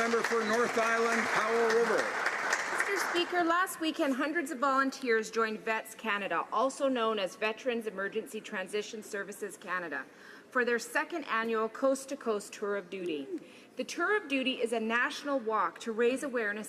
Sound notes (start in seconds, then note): 1.7 some Applause